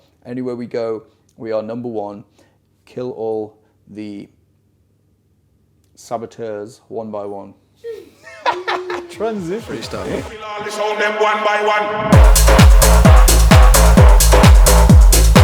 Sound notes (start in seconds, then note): 7.8 laughing; 12.0 upbeat tech music